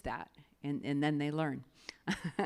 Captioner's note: laughs